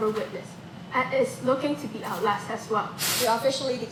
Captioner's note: static